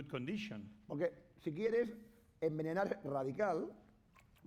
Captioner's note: speaking spanish